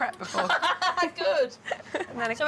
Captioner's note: laughs